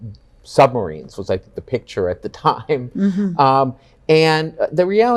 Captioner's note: chuckles